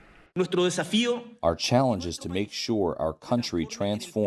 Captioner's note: through translator